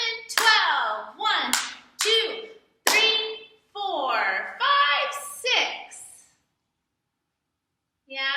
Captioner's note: clap